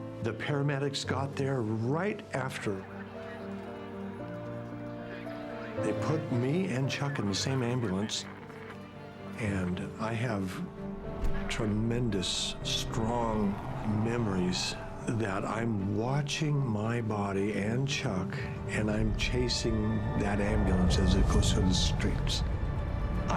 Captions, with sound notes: The paramedics got there right after [emergency sirens] they put me and Chuck in the same ambulance. And I have tremendous strong memories that I'm watching my body and Chuck and I'm chasing that ambulance as it goes through the streets.